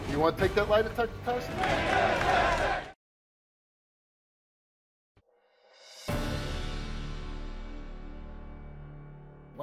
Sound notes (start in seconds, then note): 1.5 audience jeering; 5.6 dramatic music